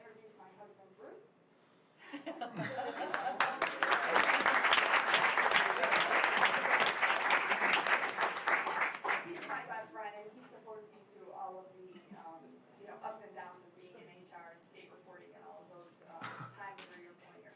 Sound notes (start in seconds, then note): 2.3 laughing; 2.8 applause